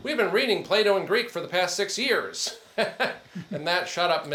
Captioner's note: laughs